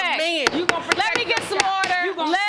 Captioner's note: gavel pounding